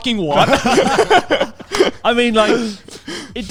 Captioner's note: laughs quickly